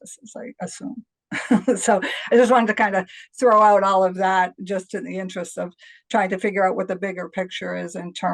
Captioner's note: laugh